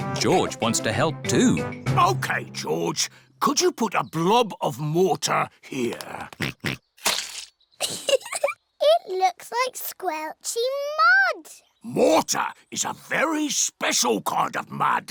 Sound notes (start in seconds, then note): 6.4 oinks; 7.8 giggles